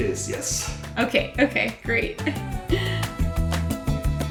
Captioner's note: laughs